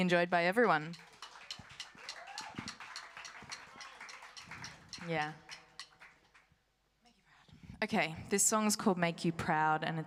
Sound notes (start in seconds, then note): 2.1 applause